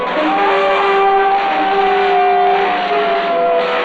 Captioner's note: Faust screaming